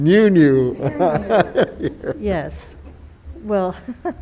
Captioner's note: board members laughing